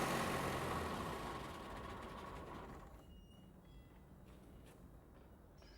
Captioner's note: motor stops